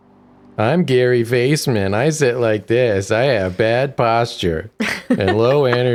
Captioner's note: mockingly